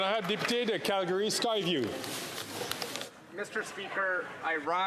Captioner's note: some Applause